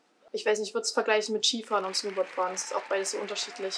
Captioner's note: applause